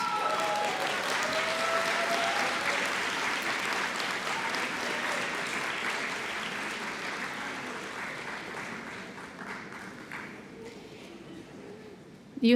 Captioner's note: cheering and Applause